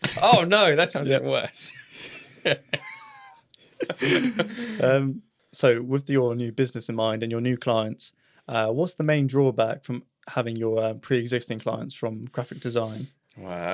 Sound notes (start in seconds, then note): 2.1 laughs